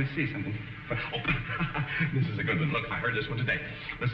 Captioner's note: chuckles